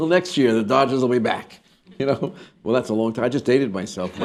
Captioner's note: laughter